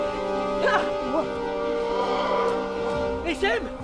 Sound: indistinct guttural roar in distance

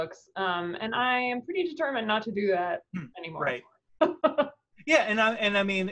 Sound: laughs

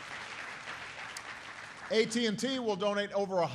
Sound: applause

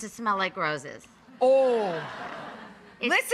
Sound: audience laughs

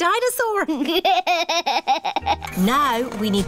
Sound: chuckles

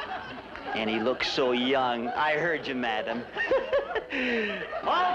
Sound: laughs

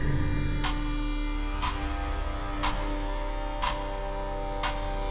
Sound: clock ticking

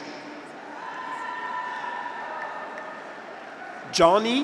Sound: graduates cheer

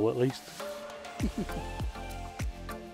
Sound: chuckles

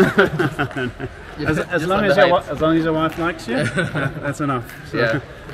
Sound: laughing; laughing

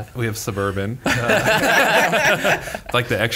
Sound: laughter

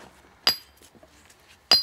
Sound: chiseling

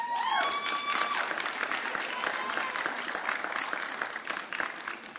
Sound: audience cheering

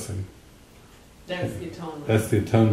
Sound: audience member speaking

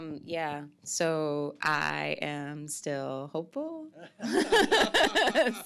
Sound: laughs

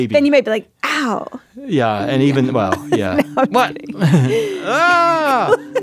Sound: laughs

